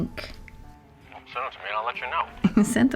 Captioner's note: hawk on phone